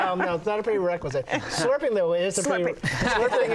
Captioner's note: laughter